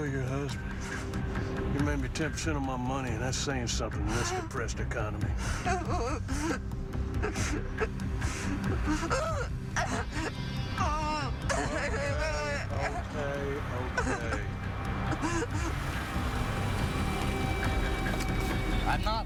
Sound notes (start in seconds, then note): 5.6 crying; 7.7 gasp; 9.9 sobbing